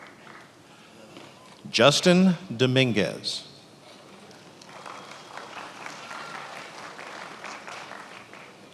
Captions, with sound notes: Justin Dominguez. (attendees applauding)